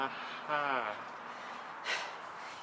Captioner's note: laughs